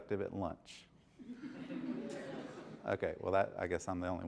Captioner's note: laughter